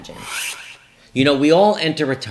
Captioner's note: Swish